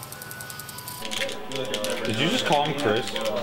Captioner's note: controllers clacking